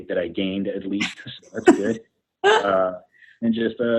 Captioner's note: laughs